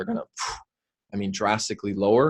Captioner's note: forcefully blows air